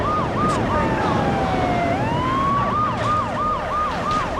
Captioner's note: tires screech